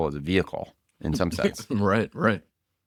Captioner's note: laughs